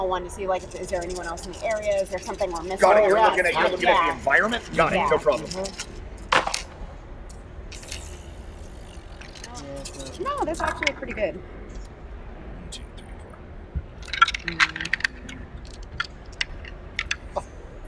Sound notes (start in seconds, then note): 7.8 dice rattle; 14.0 dice rattling